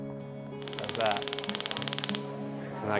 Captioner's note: taser clicking